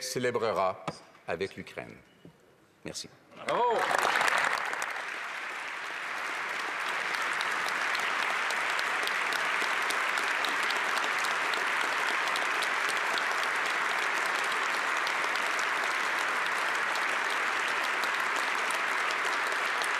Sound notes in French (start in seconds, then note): 11.1 applaudissements